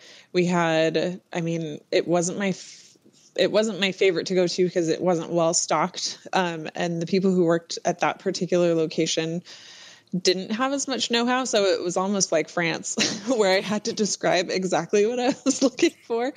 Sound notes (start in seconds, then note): 13.2 laughs